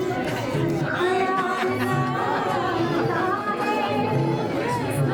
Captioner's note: children chattering